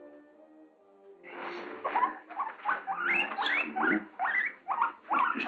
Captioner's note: guinea pig squeaking